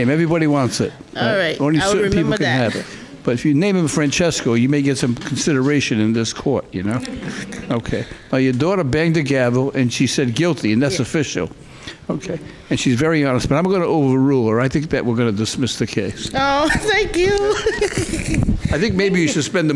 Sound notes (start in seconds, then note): 17.2 laughing